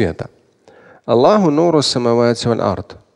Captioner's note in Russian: Говорит на арабском